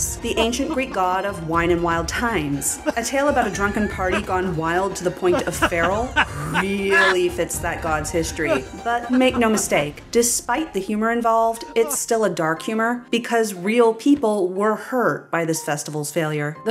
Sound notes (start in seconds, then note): 2.8 male laughter; 5.3 mad male laughter